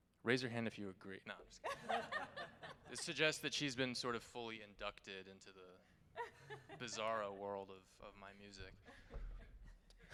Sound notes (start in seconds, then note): 1.7 band members laughing